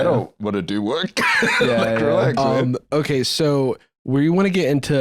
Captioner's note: laughs